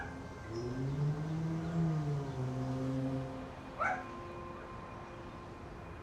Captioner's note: distant dog barking